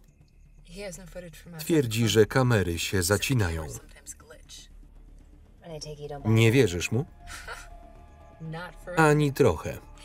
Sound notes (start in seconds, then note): 7.3 laughs